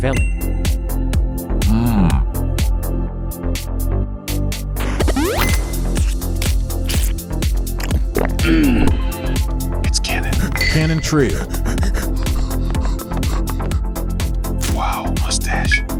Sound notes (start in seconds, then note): 10.1 heavy panting; 10.2 cry